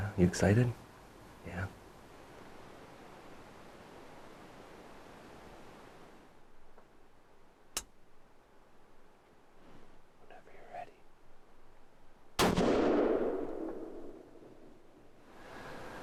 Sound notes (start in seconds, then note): 8.1 gun clicks; 12.4 rifle fires